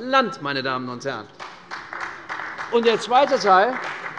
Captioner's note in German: Beifall bei der CDU